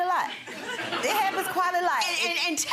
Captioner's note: audience giggles